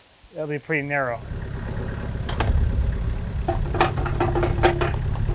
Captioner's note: engine revving